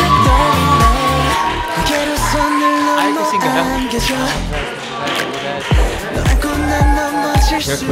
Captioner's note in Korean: 수고한 에게 쏟아지는 박수갈채